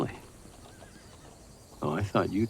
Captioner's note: hooves clopping; horse whinnying